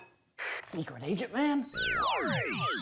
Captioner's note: whispering